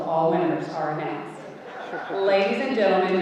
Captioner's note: audience laughing